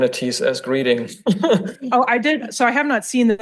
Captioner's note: people laugh